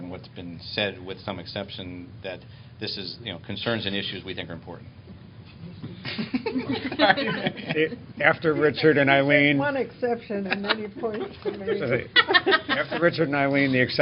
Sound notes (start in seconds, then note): 6.0 laughter